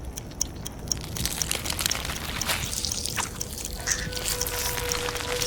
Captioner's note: flesh squelches; eerie music